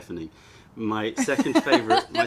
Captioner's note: laughter